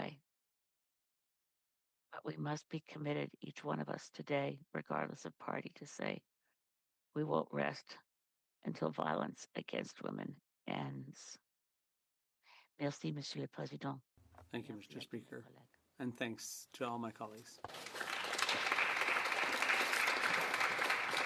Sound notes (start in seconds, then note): 17.4 speaking French